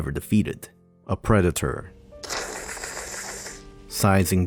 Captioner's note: hissing noise